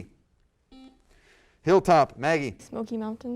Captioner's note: buzzer